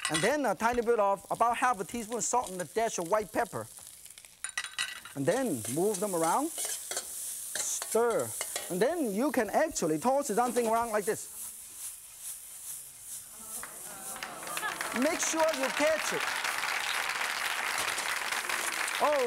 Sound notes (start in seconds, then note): 12.1 rhythmic sizzling; 13.6 applause